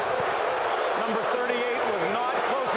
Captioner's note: crowd clamoring